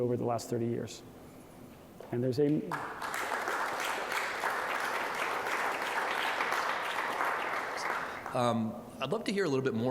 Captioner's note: applause